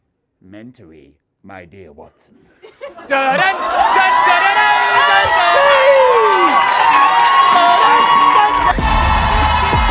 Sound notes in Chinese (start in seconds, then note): 3.0 观众欢呼; 6.6 欢呼与喝彩